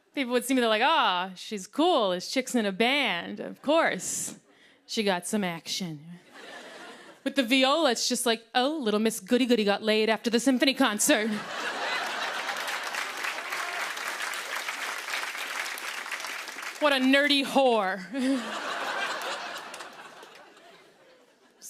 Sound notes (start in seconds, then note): 6.3 laughter; 11.3 laughter and applause